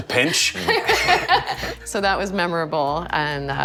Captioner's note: laughing